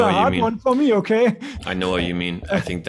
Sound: laughs

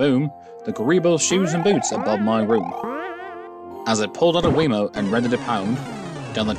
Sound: multiple jumping SFX

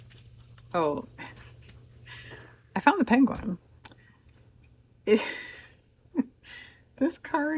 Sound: laughs

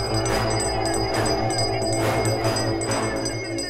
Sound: bell ringing

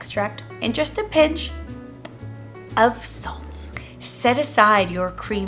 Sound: smacks lips

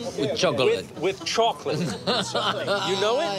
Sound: laughs

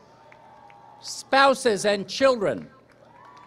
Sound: applause, cheering

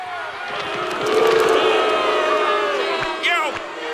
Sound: booing

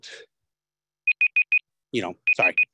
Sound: timer beeping

